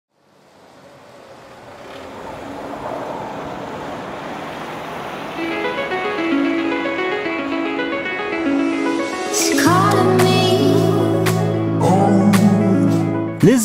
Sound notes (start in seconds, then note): 0.5 wind whooshing; 4.9 intriguing dramatic music